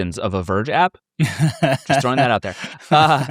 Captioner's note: laughing